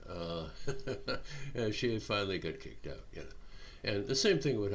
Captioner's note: chuckling